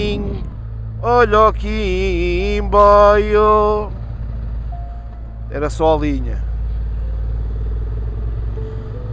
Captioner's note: train